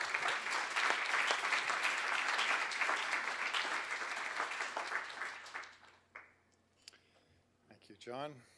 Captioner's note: applause